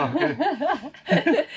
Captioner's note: laughs